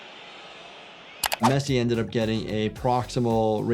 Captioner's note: keyboard clicking